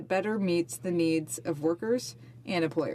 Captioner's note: speaking French